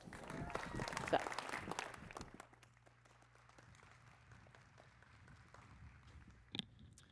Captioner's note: applause